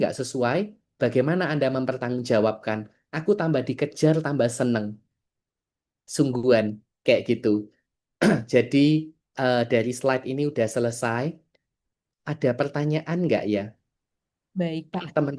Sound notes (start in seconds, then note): 8.2 berdehem